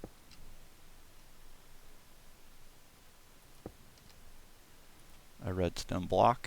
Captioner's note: MORE awkward silence